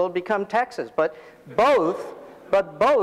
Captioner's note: audience laughing